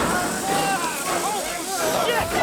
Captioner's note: gun bangs; yelling